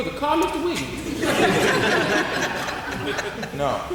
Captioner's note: audience laughing